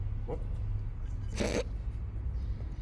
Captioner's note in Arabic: شخير